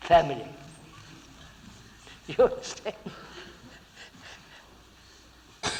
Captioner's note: laughs